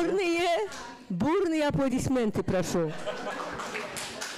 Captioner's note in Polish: fraza po rosyjsku, śmiech